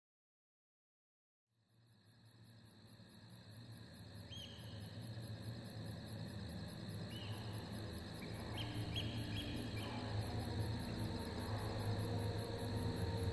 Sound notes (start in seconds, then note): 4.0 birds chirping